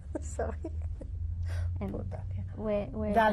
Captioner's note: laughs